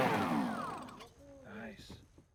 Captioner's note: engine whirring